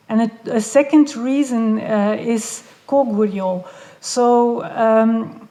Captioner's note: none